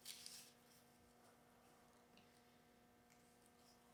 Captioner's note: leaf rustling